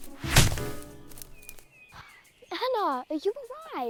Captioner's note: branch thudding